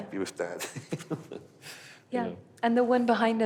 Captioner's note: laughs